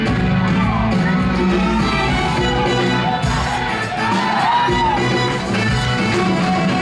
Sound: student’s exclaims overlapping

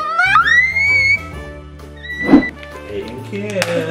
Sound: squealing

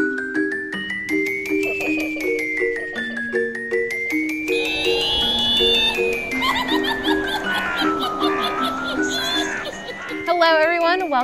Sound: witch cackling; creepy music

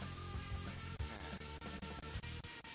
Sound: sigh

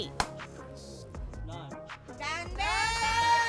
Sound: claps

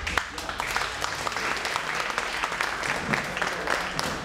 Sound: clapping

